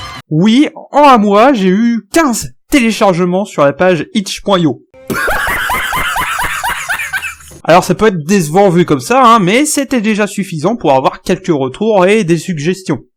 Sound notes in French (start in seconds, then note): 5.0 gros rire